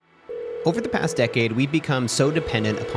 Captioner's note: phone ringing